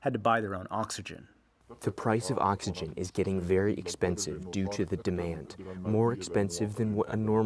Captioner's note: through translator